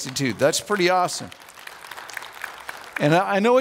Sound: audience applauds

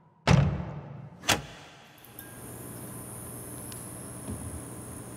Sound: door slams; switch clicks

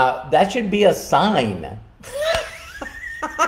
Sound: laughing

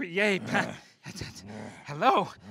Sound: stuttering

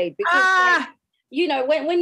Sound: screams

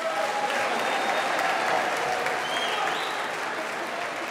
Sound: applause

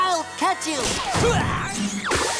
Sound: grunting

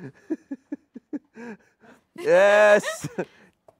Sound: audience laughing; Dumpster Wizard laughing

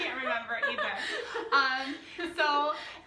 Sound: laughing

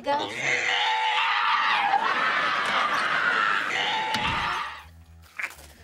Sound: screeching

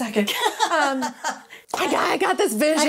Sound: laughing

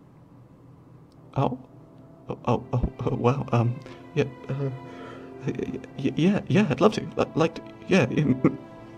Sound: stuttering; clears throat

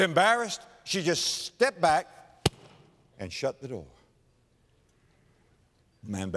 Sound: pound

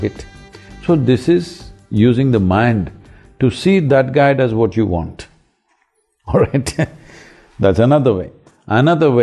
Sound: laughs

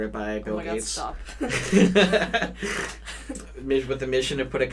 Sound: both laugh

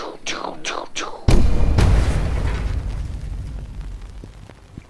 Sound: atmosphere rumbling

